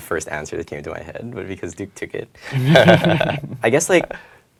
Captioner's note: laugh